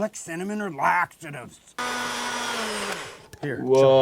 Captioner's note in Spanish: batidora zumbando